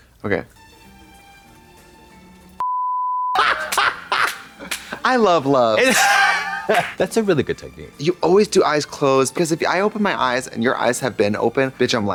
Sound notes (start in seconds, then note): 3.5 Trixie cackles; 6.1 Katya giggles